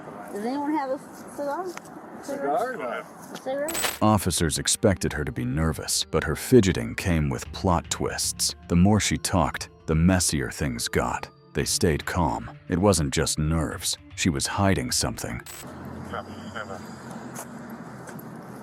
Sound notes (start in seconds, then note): 16.1 radio chatter